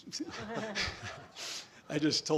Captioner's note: all laughing